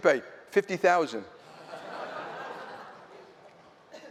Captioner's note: laughter